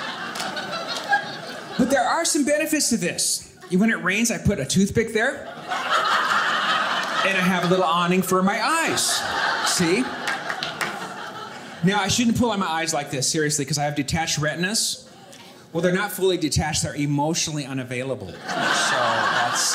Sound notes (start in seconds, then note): 5.3 audience laughing; 9.0 audience laughing